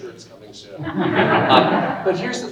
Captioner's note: audience laughing